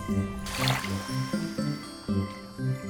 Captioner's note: campfire fizzles out